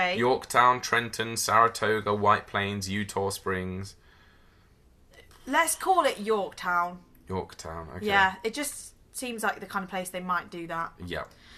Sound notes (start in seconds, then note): none